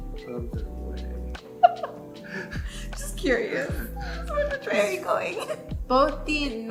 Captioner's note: laughs